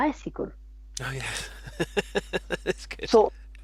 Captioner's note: laughs